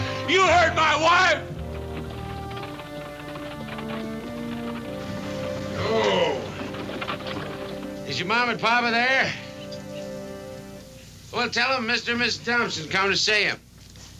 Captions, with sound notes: You heard my wife. (wagon rattling) Whoa. Is your mam and papa there? Well tell 'em Mr. and Mrs. Thompson, come to see 'em.